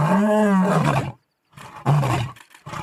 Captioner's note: howls